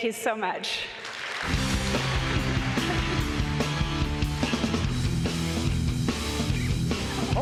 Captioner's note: audience applauds; upbeat rock